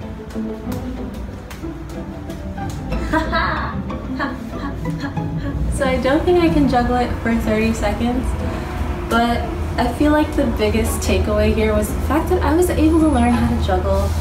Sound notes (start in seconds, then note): 0.2 upbeat string music; 2.9 laughter